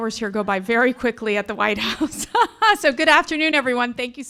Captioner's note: laughs